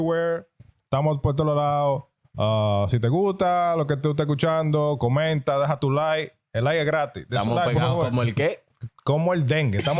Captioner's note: speaking In Foreign Language